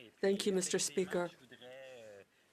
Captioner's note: speaking French